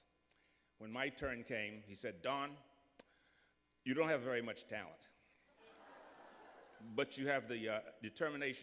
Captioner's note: laughter